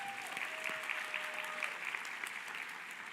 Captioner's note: applause